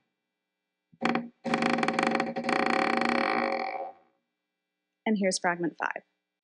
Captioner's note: door continues creaking